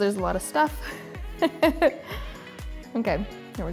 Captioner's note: laughing